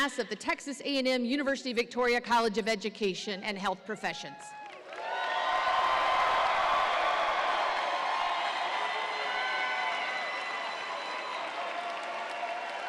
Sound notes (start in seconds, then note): 4.5 audience applauds and cheers